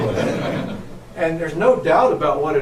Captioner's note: audience laughs